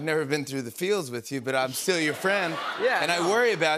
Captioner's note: laughter